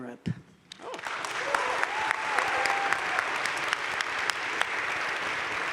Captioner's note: crowd cheering and applauding